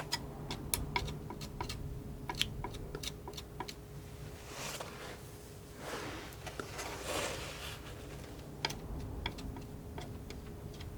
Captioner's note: tapping